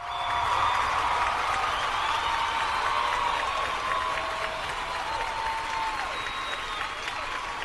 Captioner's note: pre-recorded applause